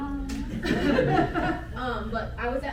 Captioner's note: audience laughing